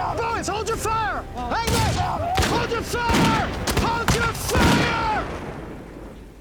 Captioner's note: fires gunshots